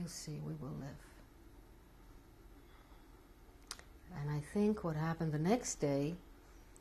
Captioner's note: pauses for 3 seconds